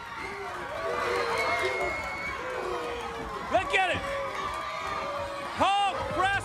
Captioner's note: crowd cheering